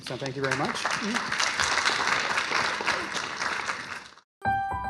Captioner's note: applause